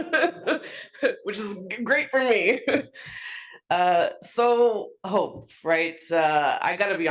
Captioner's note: laugh